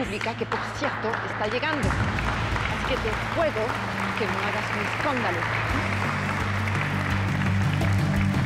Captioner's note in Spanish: aplausos